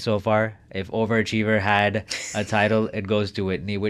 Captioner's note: chuckling